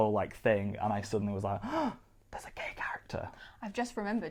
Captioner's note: gasps